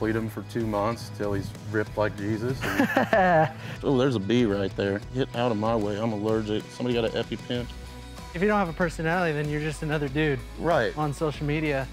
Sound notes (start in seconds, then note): 2.6 laughs